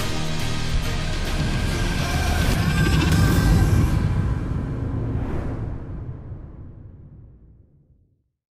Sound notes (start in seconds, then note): 4.4 wings swooshing